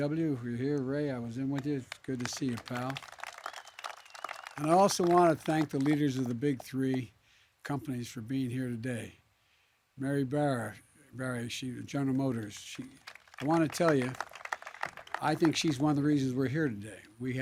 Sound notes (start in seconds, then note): 3.4 applause; 12.4 applause